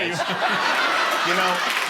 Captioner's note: laughter